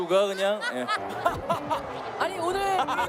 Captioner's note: everyone booing